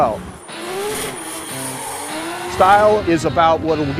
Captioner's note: engine revving